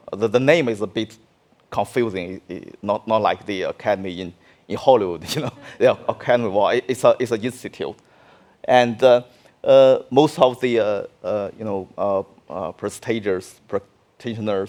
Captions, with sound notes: The name is a bit confusing, not like the academy in Hollywood (laughing), well it's a good school. Most of the prestigious in China's film industry